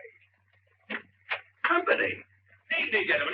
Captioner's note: door creaks